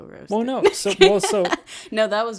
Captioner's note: laughs